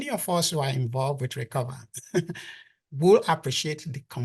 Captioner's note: chuckles